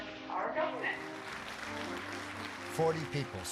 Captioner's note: group applauding